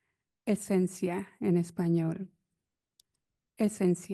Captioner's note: speaks in foreign language